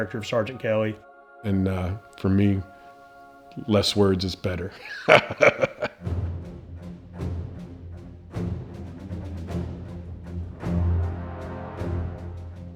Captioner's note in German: Gelächter